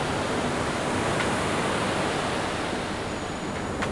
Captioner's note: rough ocean waves with blowing wind